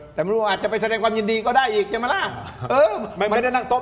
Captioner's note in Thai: เสียงหัวเราะ; เสียงหัวเราะ